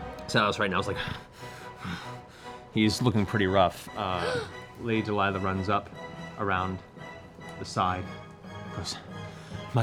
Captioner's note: panting